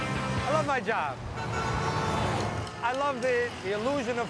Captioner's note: car horn honks